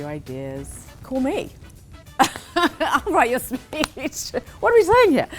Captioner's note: laughs